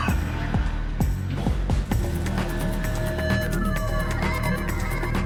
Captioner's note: gags and vomits